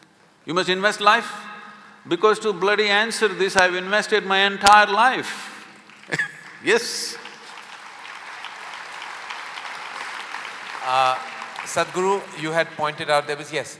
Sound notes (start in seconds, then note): 6.0 laughs; 6.8 applause